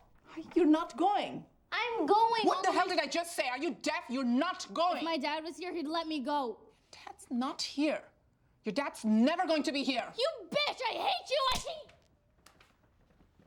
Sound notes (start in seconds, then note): none